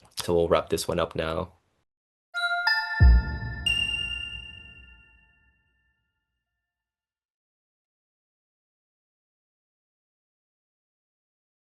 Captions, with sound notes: So we'll wrap this one up now. (graphic chimes)